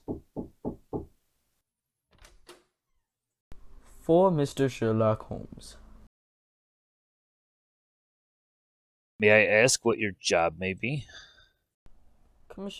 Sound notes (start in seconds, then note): 0.0 knocking on door; 2.1 door opening